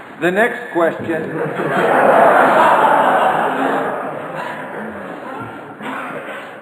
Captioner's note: audience laughter